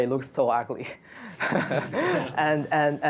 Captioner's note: laughter